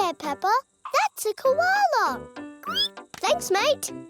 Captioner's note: squeals